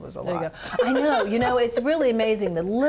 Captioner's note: laughing